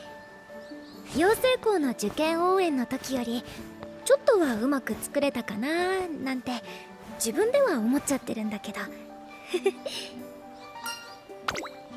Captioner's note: laugh